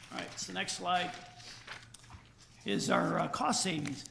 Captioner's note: rustling papers